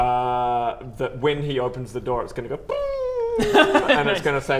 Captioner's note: booo!